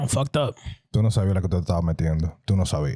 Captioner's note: speaking Spanish